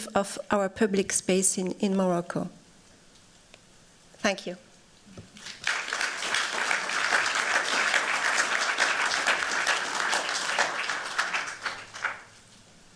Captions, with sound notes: of our public space in Morocco. Thank you. [APPLAUSE]